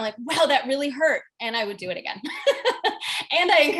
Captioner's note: laughs